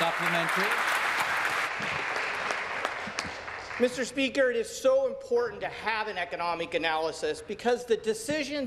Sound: applause

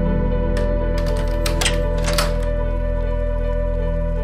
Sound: lock clicking

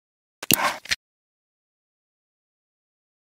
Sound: computer mouse clicking

